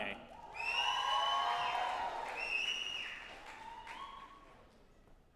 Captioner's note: group applauding and cheering